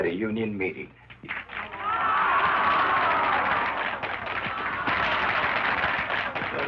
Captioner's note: women booing